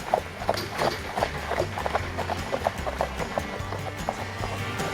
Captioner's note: horse hooves clicking